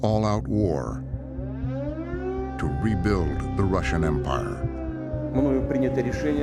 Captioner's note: air raid siren blaring; speaking Russian